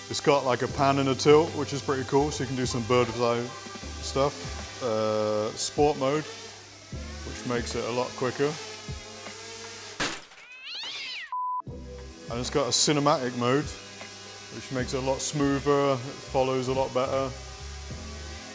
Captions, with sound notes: It's got like a pan and a tilt, which is pretty cool. So you can do some birds eye stuff. Sport mode, which makes it a lot quicker. (cat yowling) (beeping) And it's got a cinematic mode which makes it a lot smoother, it follows a lot better.